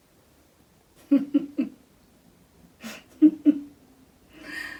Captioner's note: laughing softly